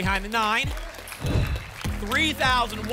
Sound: whoosh

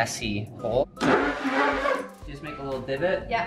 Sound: drill whirring

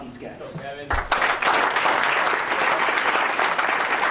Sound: applause

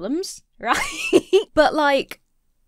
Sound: laughs

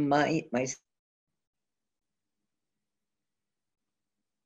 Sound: audio drop

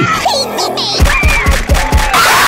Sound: punching intensifies

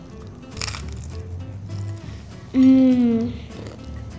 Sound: crunching

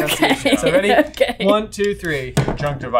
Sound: laughing

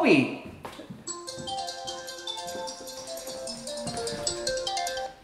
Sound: cellphone ringing

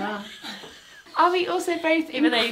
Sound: they both laugh

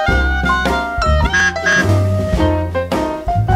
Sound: truck horn

